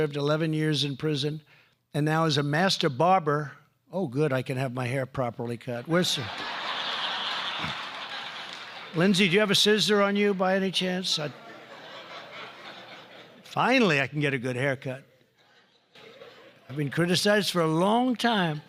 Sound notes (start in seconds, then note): 6.0 laughter; 11.2 laughter